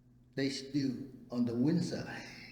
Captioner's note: laughs